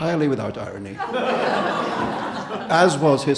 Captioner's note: audience laughing